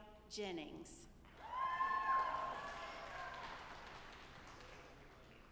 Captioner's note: audience applauding